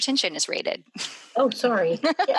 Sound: laughs

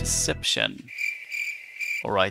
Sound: crickets

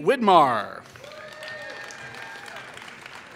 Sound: applause

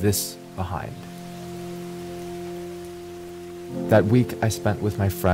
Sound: birds chirping; waterfall burbling

